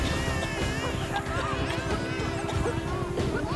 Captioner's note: baby crying